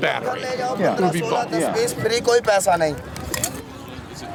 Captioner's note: non-english speech